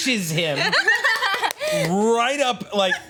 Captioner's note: group laughs